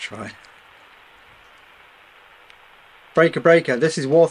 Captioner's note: radio crackling